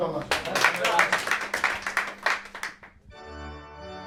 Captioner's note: clapping; organ music